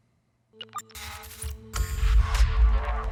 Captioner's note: electronic crackling